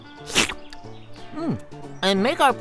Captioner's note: slurping